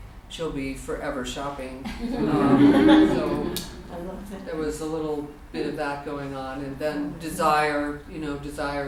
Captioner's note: audience laughter